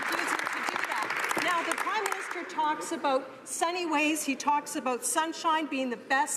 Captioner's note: some Applause